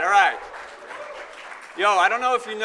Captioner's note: audience applauding